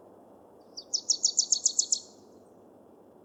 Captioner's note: bird chipring